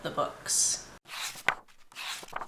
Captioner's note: pages turning